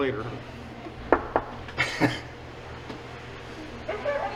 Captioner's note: knocking on wood